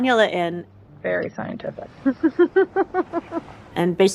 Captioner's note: laughter